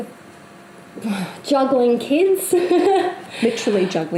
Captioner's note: laughs